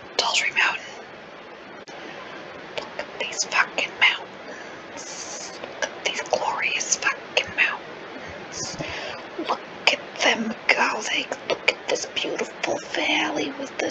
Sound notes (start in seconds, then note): 0.1 whisper